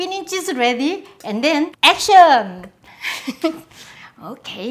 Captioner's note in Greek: γέλιο